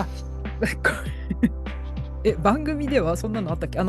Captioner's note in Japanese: 笑い